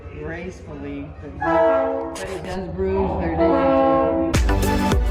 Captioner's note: train horn sounding off